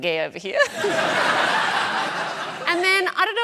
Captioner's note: laughter